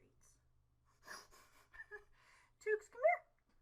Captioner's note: chuckles